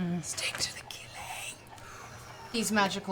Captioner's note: whispers